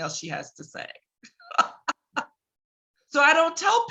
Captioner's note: laughs